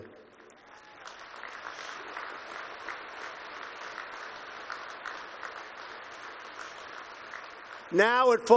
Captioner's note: applause